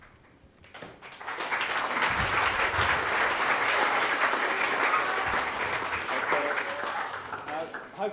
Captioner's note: audience applauds